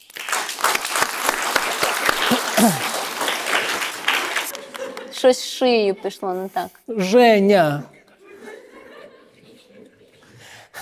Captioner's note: applause